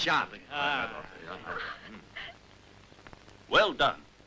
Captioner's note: giggling